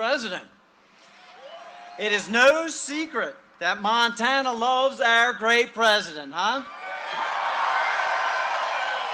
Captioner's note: cheering and applause